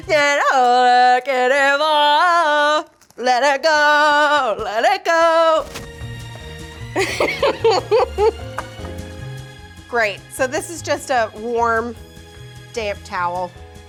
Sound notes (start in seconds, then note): 6.9 laughing